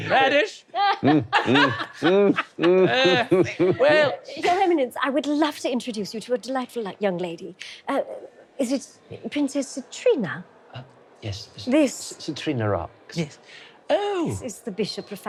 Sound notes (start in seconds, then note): 0.8 laughing